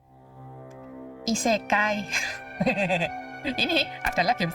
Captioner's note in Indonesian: tertawa